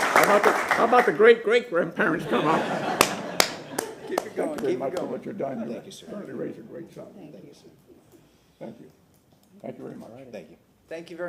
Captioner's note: applause